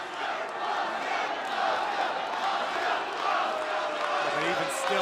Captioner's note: crowd cheering